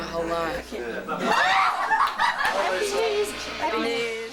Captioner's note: screams, laughter